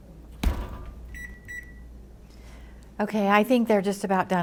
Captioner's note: oven closes, timer beeps